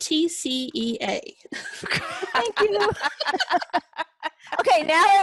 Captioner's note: laughter